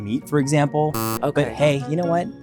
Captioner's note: buzzer buzzes